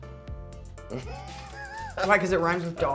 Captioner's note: Winston laughs